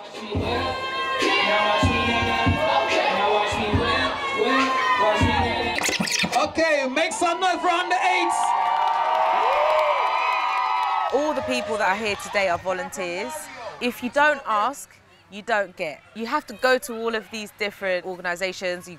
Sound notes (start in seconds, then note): 5.3 record scratch; 8.2 crowd cheers